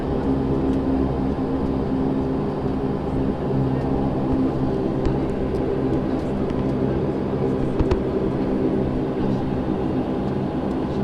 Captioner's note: aviation noise